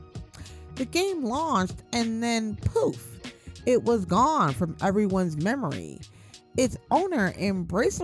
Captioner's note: poof